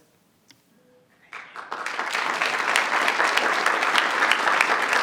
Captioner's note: audience applauds